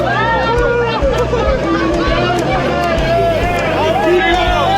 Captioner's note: crowd cheering